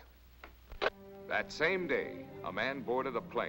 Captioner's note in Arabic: تعليق صوتي